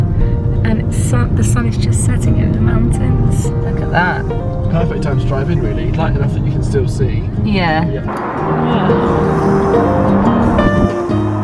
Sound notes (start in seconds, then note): 7.8 wind rushes